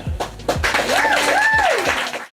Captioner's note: crowd applause